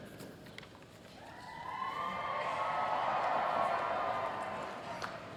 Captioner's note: applause